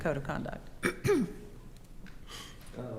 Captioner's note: coughs